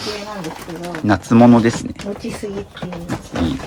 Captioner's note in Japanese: 鼻息